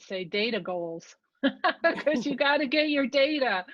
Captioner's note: laughs